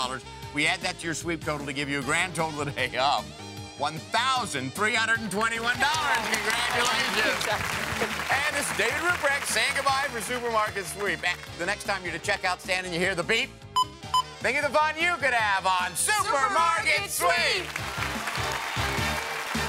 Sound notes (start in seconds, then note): 5.5 applause; 13.8 beeping; 17.2 applause